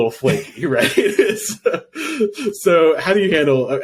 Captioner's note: laughing